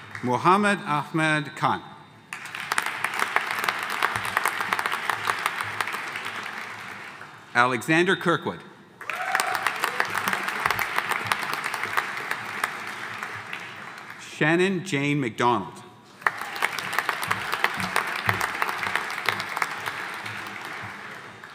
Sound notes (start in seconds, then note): 2.3 audience applauding; 9.0 audience cheering; 9.0 audience applauding; 16.2 audience applauding; 16.2 audience cheering